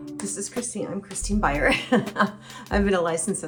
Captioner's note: chuckles